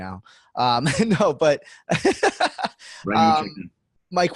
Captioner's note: laughs